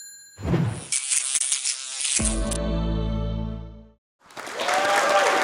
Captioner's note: bell dings; buzzing; cheers, applause